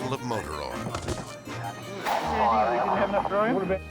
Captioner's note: jug thudding; melodic music